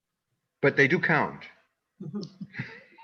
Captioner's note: laughs